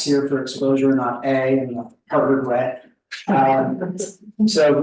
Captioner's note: attendees laughing